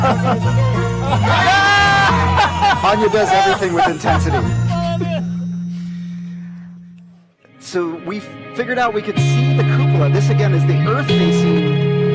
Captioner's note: laughter